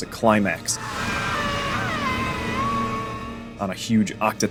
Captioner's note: screaming